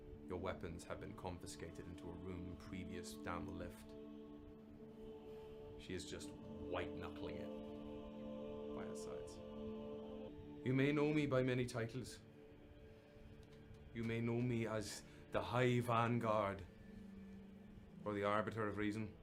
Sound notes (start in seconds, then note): none